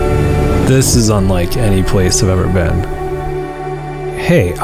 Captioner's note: voiceover